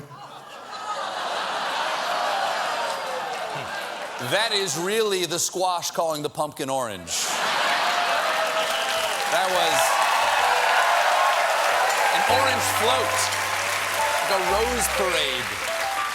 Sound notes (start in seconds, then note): 7.1 audience reacts; 11.3 cheers and applause